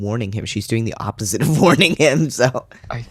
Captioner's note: laugh